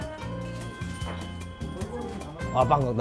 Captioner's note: bustling